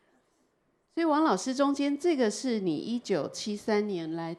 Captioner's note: Mandarin